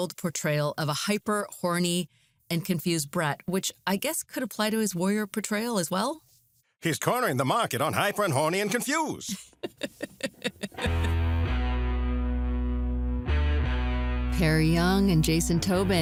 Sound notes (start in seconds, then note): 9.2 laughs